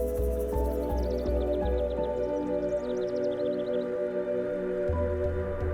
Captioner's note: birds singing